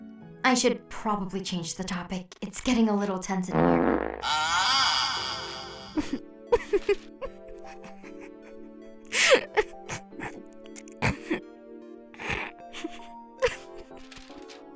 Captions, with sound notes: I should probably change the topic. It’s getting a little tense in here- (Loud fart) (Laughs)